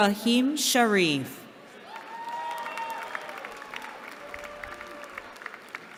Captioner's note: cheering